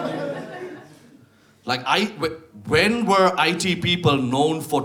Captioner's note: audience laughs